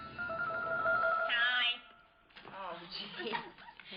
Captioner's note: nasally